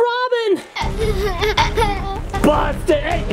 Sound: laughing

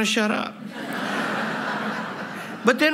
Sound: laughter

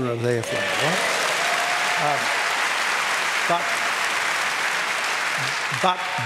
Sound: applause

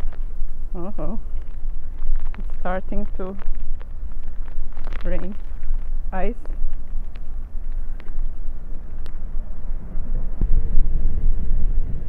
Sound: hail

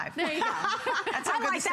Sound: laughter

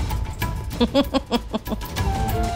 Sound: chuckles

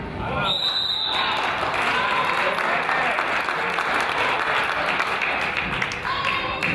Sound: whistle blows; crowd applauds

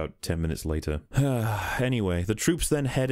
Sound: sigh

